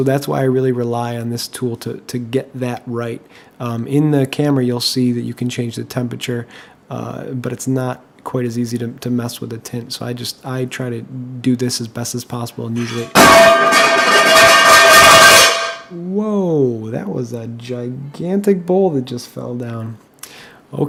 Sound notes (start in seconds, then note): 12.8 crashhh